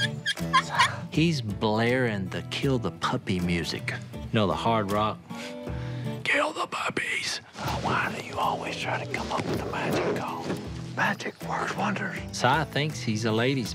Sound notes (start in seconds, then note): 4.7 imitating heavy metal singer